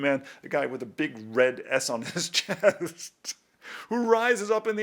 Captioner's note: laughs